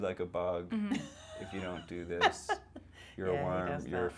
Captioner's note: laughing